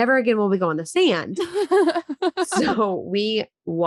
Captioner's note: laughing